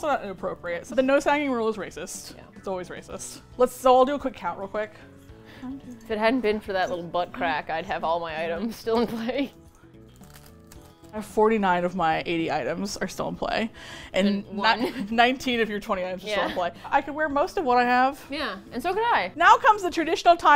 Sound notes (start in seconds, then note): 13.6 laughs